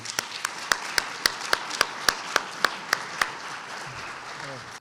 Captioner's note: clapping